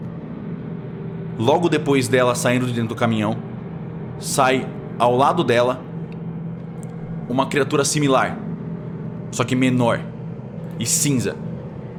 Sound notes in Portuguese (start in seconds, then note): none